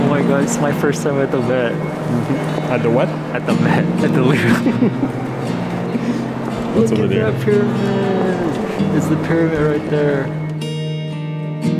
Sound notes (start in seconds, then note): 3.5 both laugh